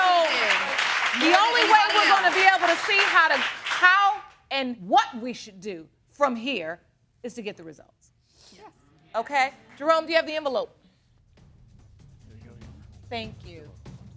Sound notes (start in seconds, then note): 6.6 sniffles